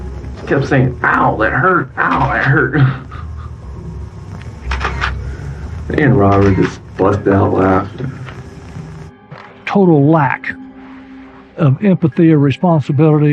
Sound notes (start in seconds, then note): 2.1 chuckling; 2.8 shutter clicks